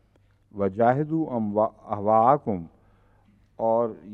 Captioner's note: Arabic